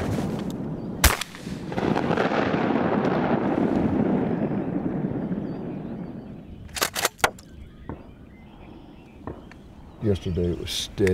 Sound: rifle blast with long echo

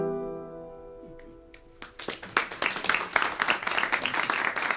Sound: applause

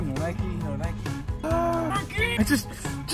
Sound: grunts

